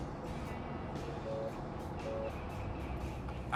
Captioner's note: phone ringing